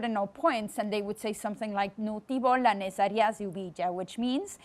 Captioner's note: speaks in foreign language